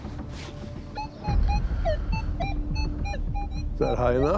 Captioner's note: metal detector beeping